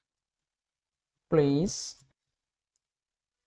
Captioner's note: voice-over in English